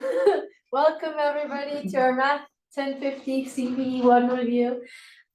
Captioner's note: chuckles